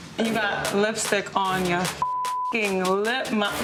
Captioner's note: beep